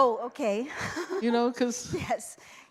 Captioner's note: laughs